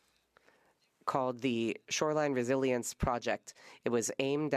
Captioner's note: speaking French